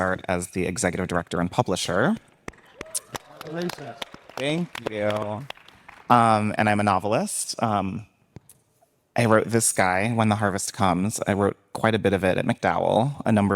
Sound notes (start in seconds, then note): 2.4 audience applauding